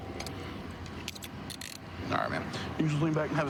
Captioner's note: handcuff closing